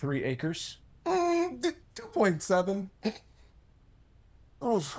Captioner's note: chuckles